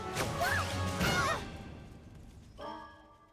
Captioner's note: all groan